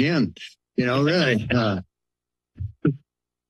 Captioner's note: laughter